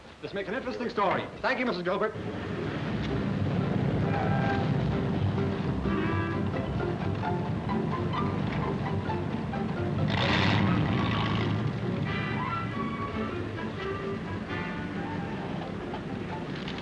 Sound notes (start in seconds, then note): 2.5 car engine revving steadily; 5.2 gentle music; 8.9 engine revving